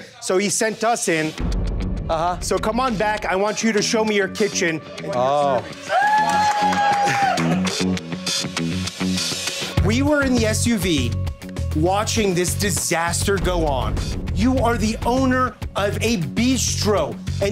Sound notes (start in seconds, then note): 5.6 crowd cheering